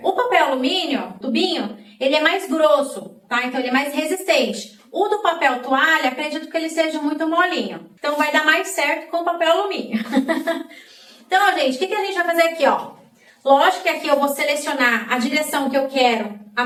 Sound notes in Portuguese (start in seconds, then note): 9.8 risadas